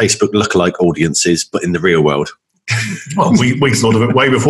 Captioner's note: laughs